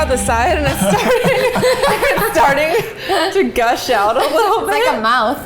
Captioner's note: all laughing